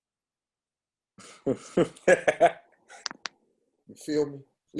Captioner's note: laughter